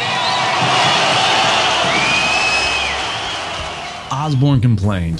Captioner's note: audience cheers